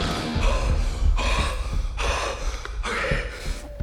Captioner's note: Danny panting